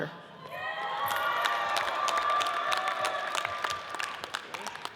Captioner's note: audience cheers and applauds